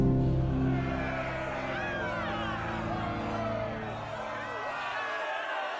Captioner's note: people shouting